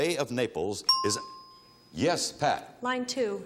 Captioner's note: bell chimes